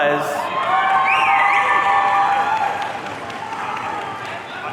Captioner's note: audience cheering